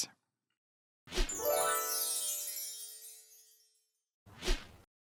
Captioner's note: magic sparkling